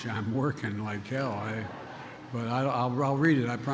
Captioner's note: laughter